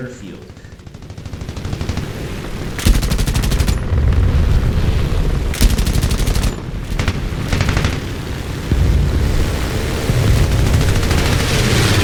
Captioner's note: aircraft Engines ,Gunfire, Flying Sounds